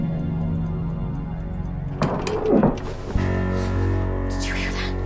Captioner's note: rattling